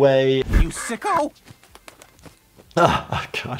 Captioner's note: duck quaking